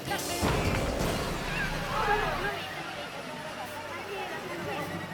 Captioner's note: intense dramatic music; onlookers shouting